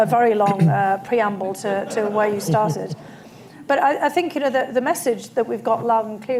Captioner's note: laughter